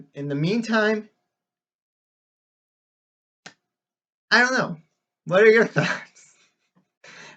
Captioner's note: chuckles